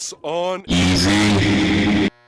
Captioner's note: male voice, distorted; SpongeBob stutters